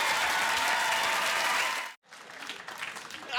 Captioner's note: applause